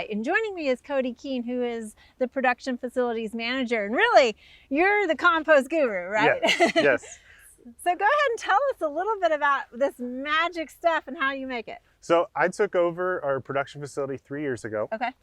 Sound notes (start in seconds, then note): 6.1 laughs